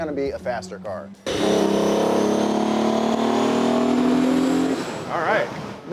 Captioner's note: car engine roaring